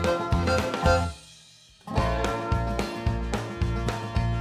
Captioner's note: squeaking